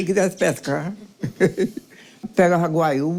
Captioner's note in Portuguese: Risos